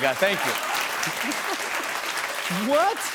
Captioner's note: applause